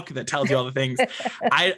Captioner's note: laughs